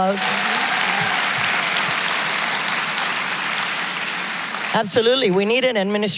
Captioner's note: applause